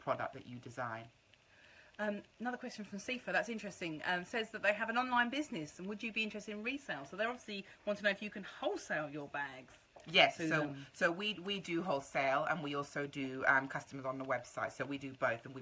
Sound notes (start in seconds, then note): none